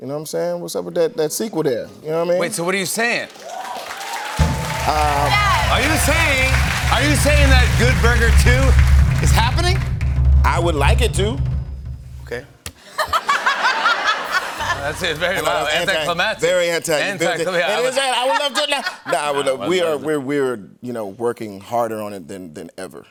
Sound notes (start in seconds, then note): 3.0 cheers and applause; 3.6 drum roll; 12.1 drum roll stops abruptly; 12.8 laughter